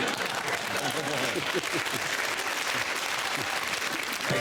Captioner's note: applause